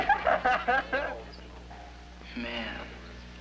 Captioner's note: laughs